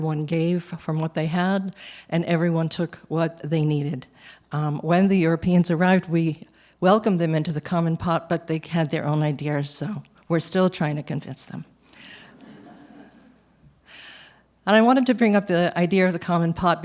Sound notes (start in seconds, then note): 12.3 laughter